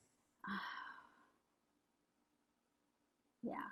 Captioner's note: silence